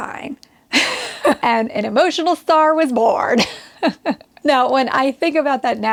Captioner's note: laughs